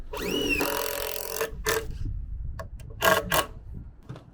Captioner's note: machine drilling